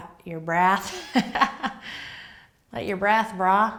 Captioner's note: laughs